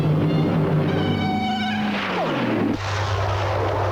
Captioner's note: laser whizzes